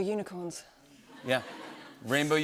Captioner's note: laughter